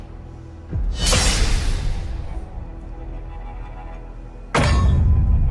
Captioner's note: screech